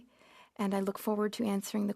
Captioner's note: speaking French